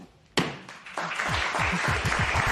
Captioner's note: applause